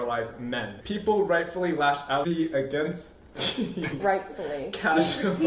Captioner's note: laughs